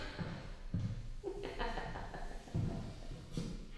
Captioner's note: laughing